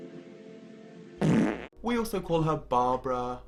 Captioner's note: farting